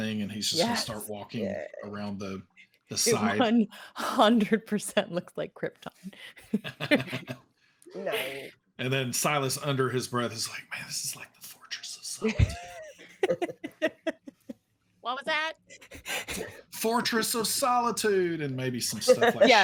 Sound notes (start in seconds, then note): 6.6 laughs; 12.2 laughing